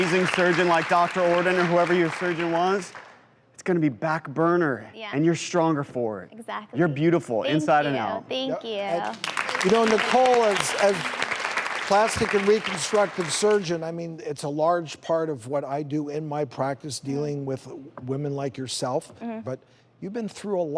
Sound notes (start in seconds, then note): 9.0 applause